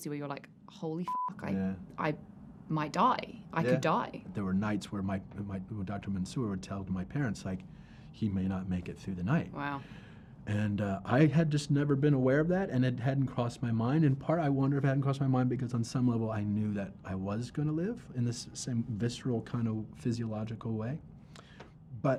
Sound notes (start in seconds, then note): 1.0 beep